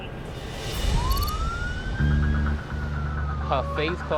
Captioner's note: sirens